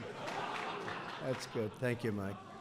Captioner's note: laughter